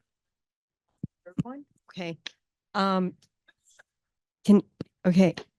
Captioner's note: speaker stuttering